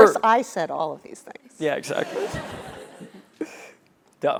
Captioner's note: laugh